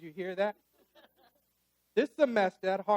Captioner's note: audience laughs